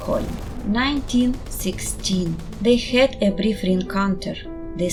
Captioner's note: muted War explosions